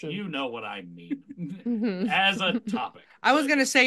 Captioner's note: laughs